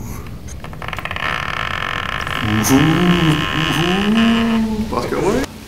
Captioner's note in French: Grincements